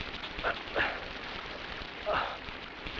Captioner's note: groaning